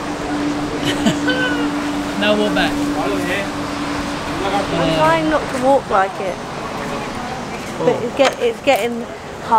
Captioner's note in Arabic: يضحك